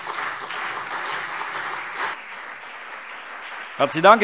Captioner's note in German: Beifall CDU und BÜNDNIS 90/DIE GRÜNEN